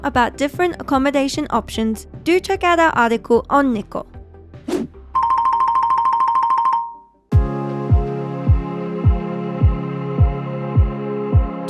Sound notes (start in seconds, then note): 4.6 screen whooshing; 7.3 lively music